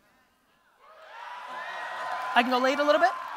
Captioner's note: audience cheering